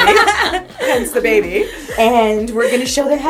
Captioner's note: laughter